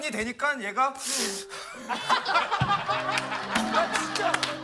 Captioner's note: sobbing